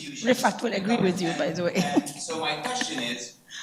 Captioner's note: laughs